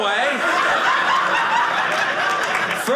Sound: audience laughing

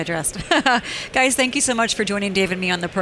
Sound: laughs

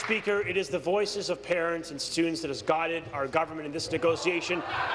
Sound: applause

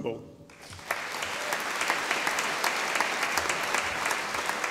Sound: audience applauding

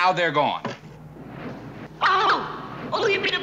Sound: whirring

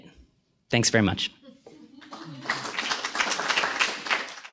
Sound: applause

